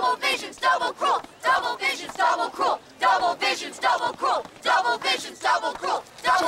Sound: chanting continues

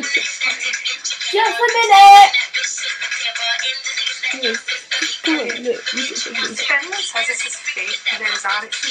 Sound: giggles

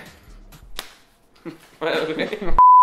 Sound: slap; laughing; beep

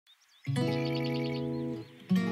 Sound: birds chirping; slow instrumental music

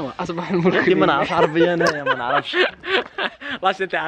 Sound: laughter

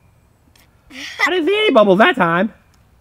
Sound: laughs

